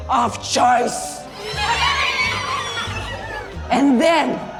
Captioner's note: squeals of creepy glee